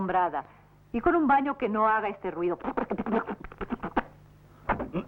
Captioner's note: sputtering